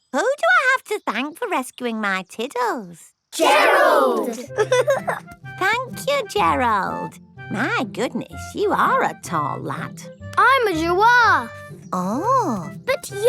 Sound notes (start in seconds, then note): 4.3 giggling